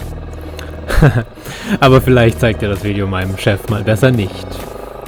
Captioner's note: jokingly